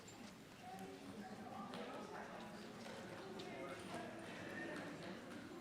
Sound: attendees chattering

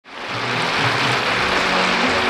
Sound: lively music; audience applauding

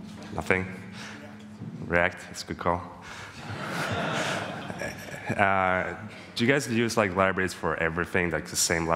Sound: laughing

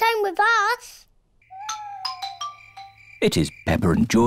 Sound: owls hoot

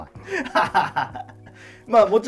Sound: laughing

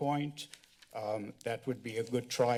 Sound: paper rustling

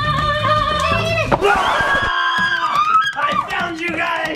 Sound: screams

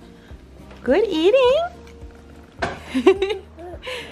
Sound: laughs

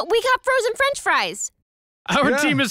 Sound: laughs

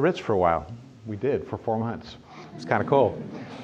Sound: chuckling

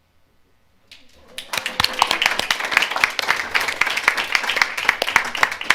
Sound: audience clapping

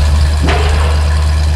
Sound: slam

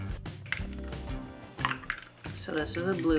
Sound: drinks sloshing

